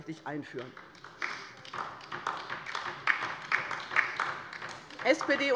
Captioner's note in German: Beifall bei der LINKEN